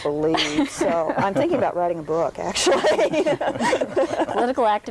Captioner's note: laughs